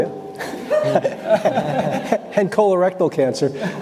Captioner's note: audience laughing